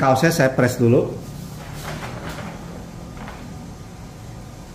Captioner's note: covering paper noise